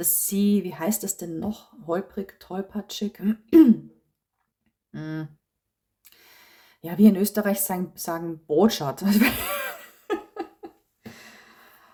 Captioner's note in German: gelächter